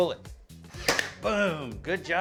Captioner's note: nail gun fires